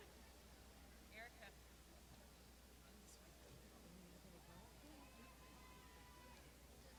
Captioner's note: murmurs